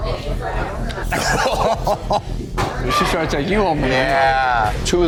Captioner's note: coughs